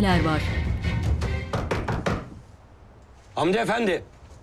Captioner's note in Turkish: Kapı vurulma sesi